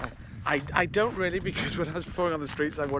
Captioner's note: laughing